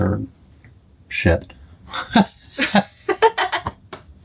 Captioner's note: laughter